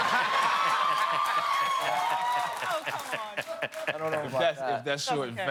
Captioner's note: cheers and applause